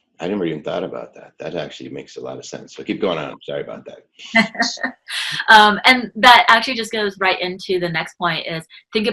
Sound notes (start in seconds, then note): 4.7 laughing